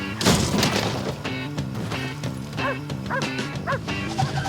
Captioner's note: dog barking